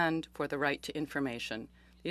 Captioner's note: speaking French